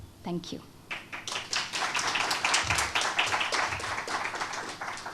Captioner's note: students applaud